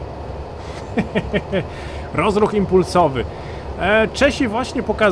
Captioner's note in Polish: śmiech